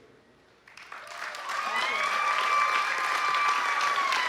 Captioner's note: applause